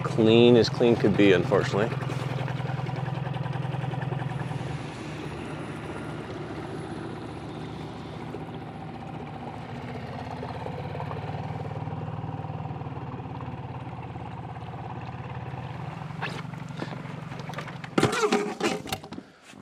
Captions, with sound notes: Clean as clean could be, unfortunately. (boat engine roaring)